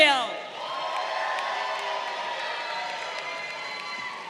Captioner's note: crowd cheering